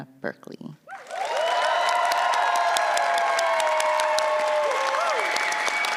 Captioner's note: applause